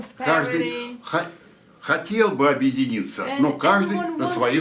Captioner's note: foreign language